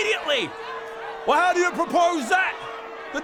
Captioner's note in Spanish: multitud enojada